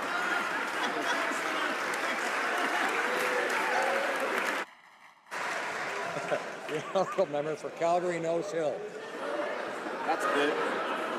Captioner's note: laughing